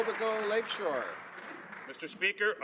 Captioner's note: some Applause